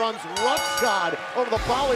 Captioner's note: bell ringing